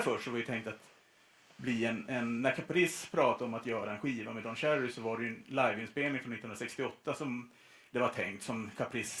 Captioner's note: none